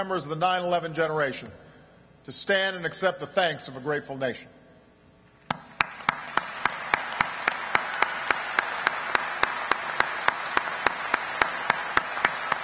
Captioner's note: applause